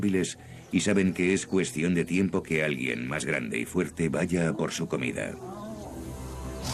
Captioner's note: scream